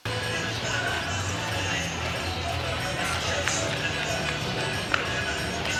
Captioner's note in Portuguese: Som ambiente de rua, som de rádio